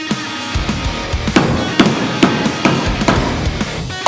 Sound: thuds

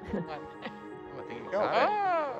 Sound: laughing

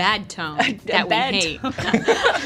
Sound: laughter

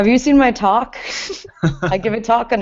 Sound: laughter

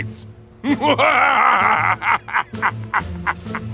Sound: laughing

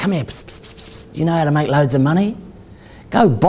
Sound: hissing

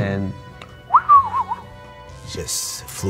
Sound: whistles

